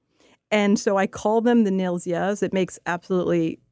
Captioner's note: speaking Russian